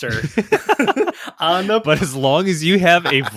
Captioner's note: laughing